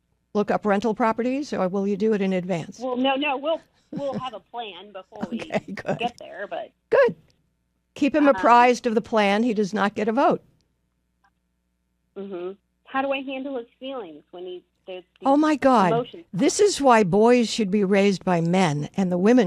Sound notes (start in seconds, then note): 3.9 laughs